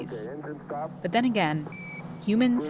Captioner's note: soundbite of archived recording